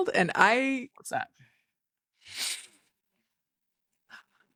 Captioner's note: sniffling